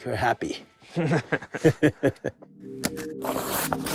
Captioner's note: laughs